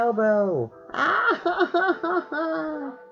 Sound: crying again

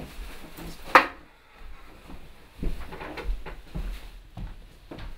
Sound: cord slams to the floor

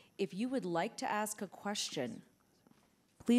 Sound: none

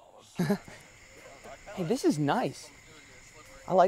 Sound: chuckles

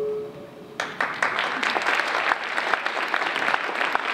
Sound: applause

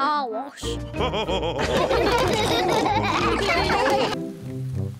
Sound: all laughing

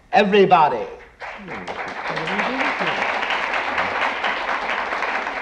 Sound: audience applauding

